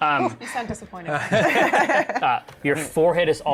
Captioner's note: laughter